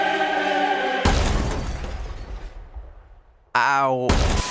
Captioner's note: loaf plummets through ceiling